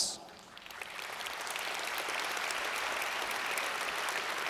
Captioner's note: audience applauds